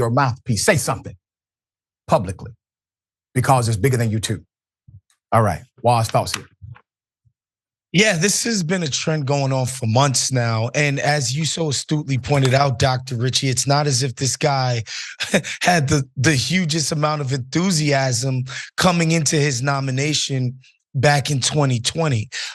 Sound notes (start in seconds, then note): 14.8 laugh